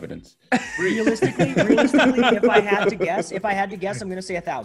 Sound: laugh

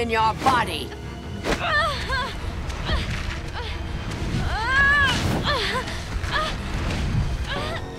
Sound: groaning

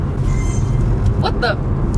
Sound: game chimes

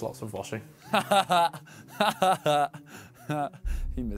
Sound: laughs

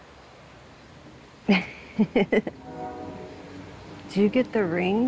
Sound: chuckles

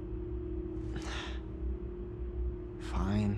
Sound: sighs

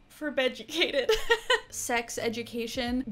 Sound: chuckling

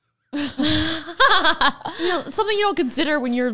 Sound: both laugh

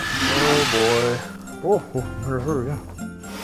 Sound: roaring

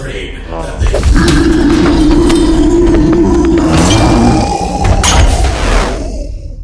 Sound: guttural growl

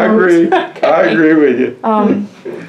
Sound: laughter

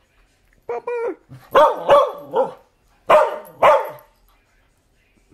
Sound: barking

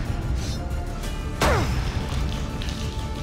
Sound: grunt

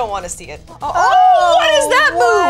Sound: exclamations of surprise

